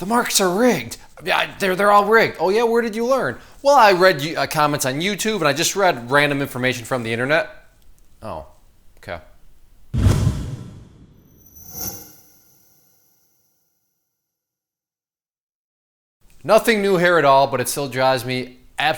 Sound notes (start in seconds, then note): 9.9 metallic slam; 10.0 metallic scrape